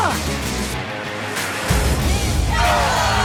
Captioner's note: cheers and applause